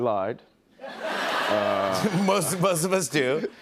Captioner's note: laughter